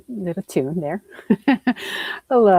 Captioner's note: chuckles